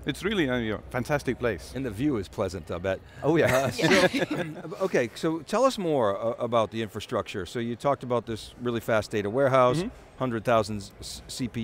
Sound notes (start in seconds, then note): 3.4 all giggling